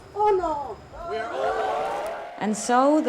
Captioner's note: crowd